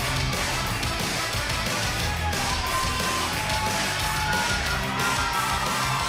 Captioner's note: crowd chatter; crowd cheering